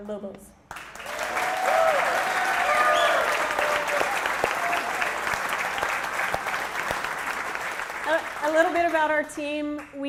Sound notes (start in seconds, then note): 3.9 applause